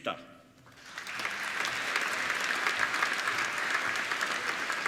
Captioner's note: applauding